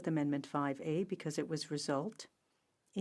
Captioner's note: speaking french